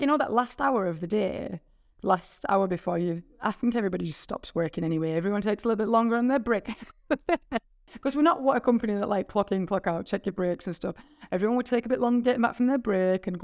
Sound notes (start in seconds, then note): 6.6 laughing; 6.6 chuckling